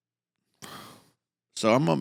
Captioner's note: emotional exhale